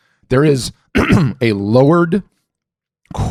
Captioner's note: clears throat